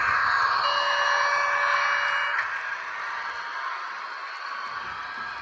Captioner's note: alarm